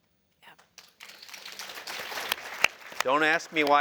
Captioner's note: applause